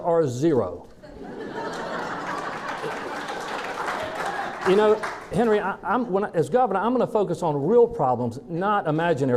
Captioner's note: laughing